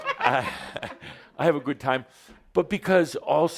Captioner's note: some laughter